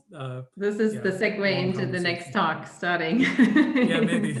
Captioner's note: laughing